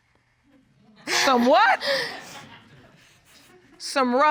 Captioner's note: laughs